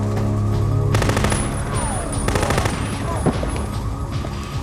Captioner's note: machine gun firing